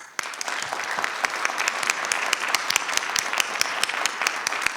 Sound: crowd clapping

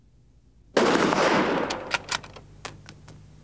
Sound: gunshot

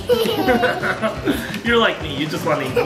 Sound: laughing

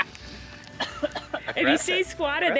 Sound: laughs; coughs

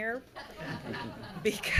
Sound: everyone laughs

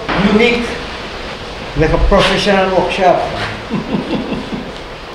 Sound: laughs

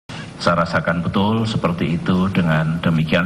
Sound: non-english speech

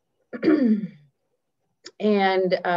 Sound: clears throat

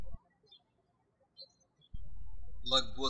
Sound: birds chirping

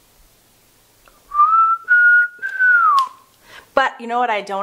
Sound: whistling

